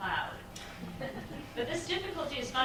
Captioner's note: chuckling